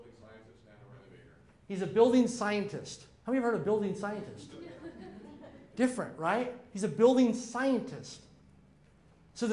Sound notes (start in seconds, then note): 4.4 audience laughing